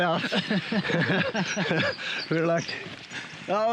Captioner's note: both laugh